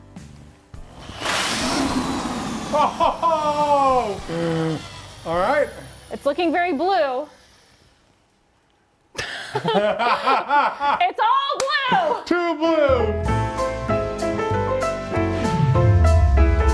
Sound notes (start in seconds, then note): 0.9 power drill whirring; 9.1 both laughing; 12.9 bright playful music